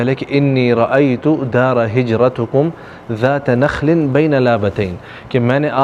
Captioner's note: Arabic